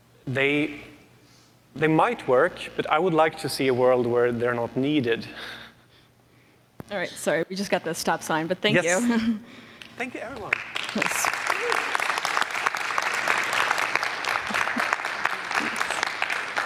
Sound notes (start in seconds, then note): 10.4 applause